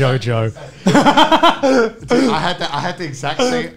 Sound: men laughing

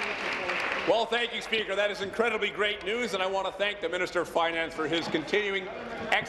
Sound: applause

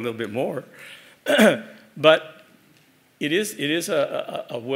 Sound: cough

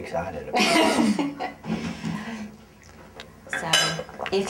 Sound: laughing

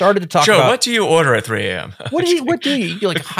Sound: chuckles

